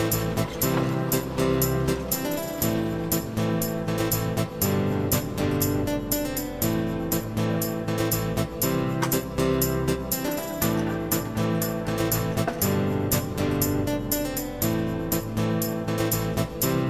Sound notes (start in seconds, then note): 1.1 rollers Squeak